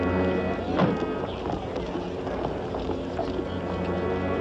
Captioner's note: door slams